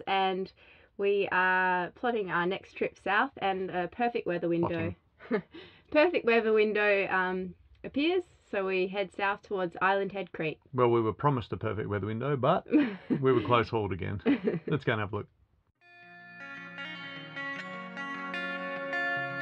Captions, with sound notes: and we are plotting our next trip South, and a perfect weather window. - Plotting. (laughing) - Perfect weather window appears, so we head South towards Island Head Creek. - Well, we were promised a perfect weather window, but, we were close-hauled again. (laughing) Let's go and have a look. (relaxing guitar music)